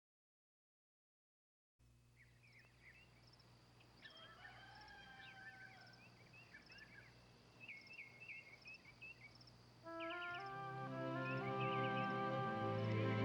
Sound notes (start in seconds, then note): 2.3 birds chirping; 4.0 rooster crowing; 10.0 bright warm music